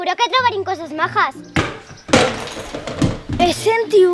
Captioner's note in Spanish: Se oye caer algo